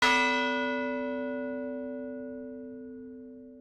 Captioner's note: bell ringing